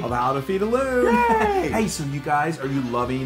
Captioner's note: laugh